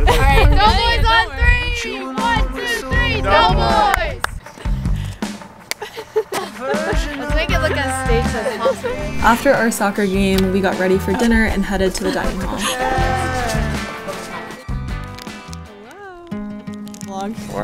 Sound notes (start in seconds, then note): 3.8 clapping; 5.7 high five smacking; 16.6 gentle music